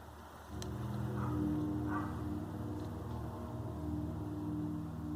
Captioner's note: dog Barks